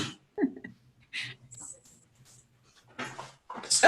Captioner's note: chuckles